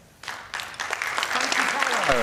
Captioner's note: applause